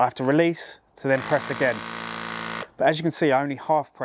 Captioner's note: press gun vibrates loudly